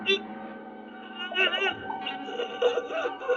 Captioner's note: whimpering